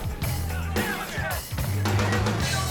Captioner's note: yelling